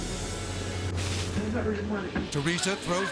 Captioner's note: tea splashes